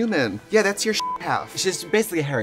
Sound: beep

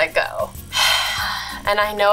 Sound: sighs

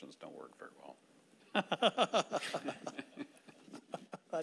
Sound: laughing

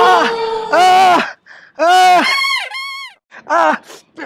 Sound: groaning in pain

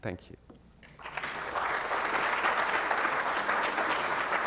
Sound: applause

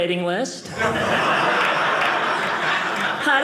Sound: audience laughing

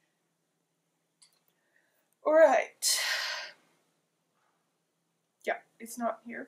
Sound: sighs

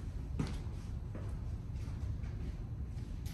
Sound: footsteps walking away

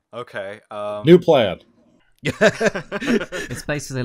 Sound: laughter

